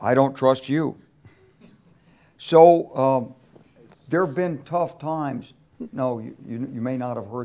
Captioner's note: laugh